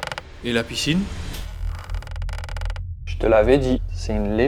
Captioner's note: noise of annoyance